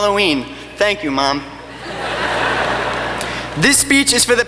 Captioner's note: laughing